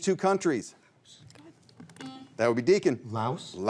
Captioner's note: buzzer rings